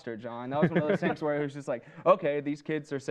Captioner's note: laughs